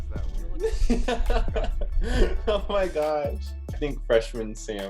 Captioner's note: laughs